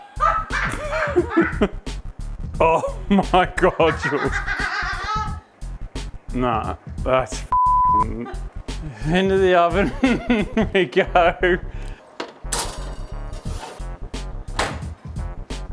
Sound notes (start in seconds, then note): 0.0 laughing; 4.3 laughing; 9.7 laughing